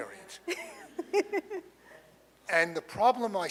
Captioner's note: laughs